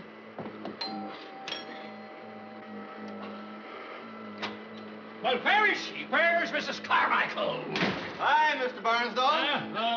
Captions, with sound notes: (doorbell ringing) Well, where is she?! Where's Mrs. Carmichael?! Hi, Mr. Barnsdahl.